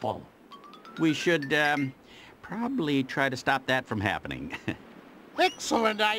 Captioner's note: chuckles